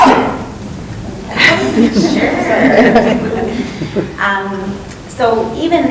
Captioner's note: group laughing